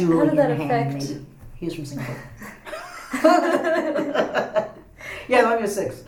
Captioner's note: all laugh